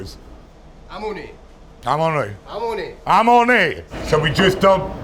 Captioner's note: both speaking Sicilian